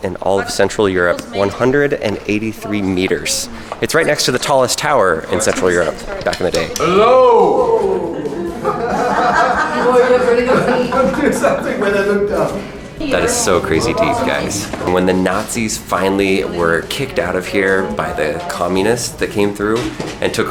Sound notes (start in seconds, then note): 6.0 tapping; 7.8 echoing; 8.8 people laughing